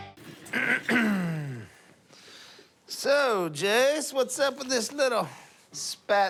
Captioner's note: clears throat